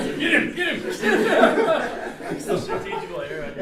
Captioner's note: laughter